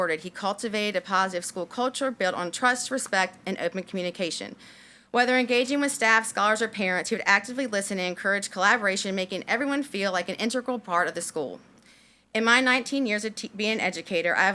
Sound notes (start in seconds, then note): none